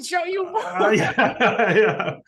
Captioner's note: laughing